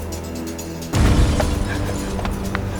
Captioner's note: crash